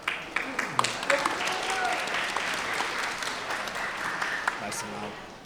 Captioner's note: everyone applauding